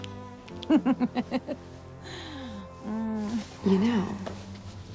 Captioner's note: giggles